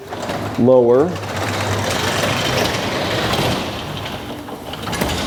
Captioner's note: garage door rattling